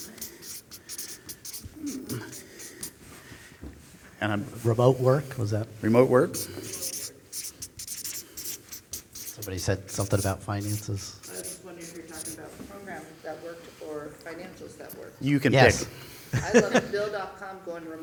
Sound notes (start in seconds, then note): 6.3 pat